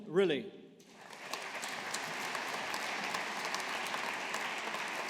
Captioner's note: audience applauding